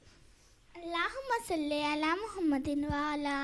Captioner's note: Arabic